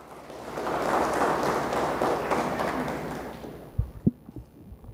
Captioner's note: audience applauds